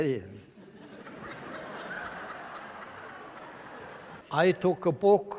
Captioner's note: laughter from the audience